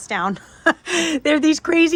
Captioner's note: laughs